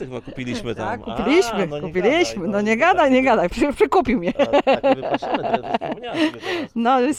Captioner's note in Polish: śmiech